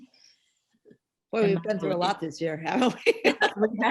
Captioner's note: laughs